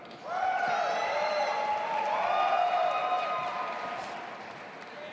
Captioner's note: audience applauding and cheering